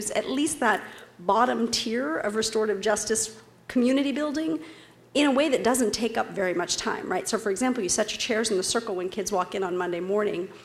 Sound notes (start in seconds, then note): none